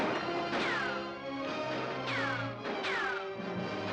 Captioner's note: gun firing